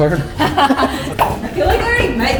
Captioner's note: forced laughter